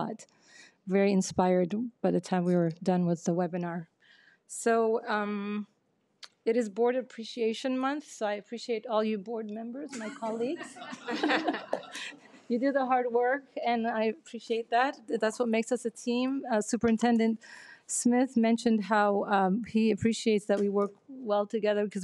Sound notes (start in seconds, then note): 10.0 people laughing